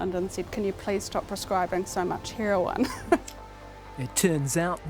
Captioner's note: chuckles